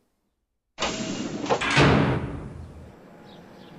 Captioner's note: gate shutting